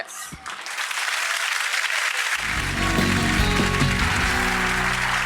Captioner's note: audience applause